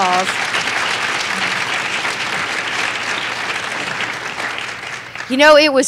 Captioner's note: applause